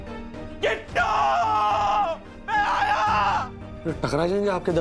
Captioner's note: screams